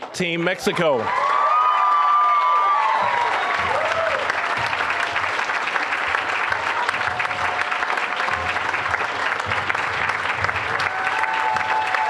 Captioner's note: applause, cheering